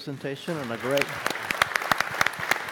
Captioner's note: applause